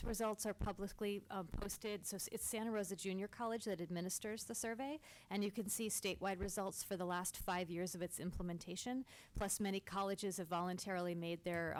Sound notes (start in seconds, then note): none